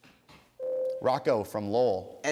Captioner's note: ding